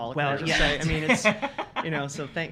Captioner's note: laughing